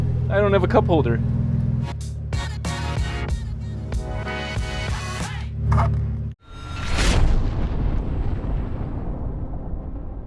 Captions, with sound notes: I don't have a cup holder. (energetic music) (straw sliding) (logo gear closing)